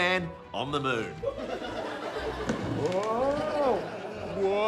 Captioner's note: laughter